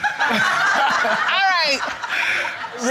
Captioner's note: everyone laughing